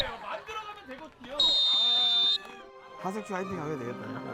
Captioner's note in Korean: 호루라기 소리